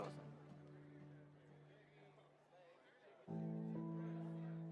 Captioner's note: people laughing